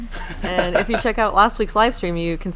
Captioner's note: laughing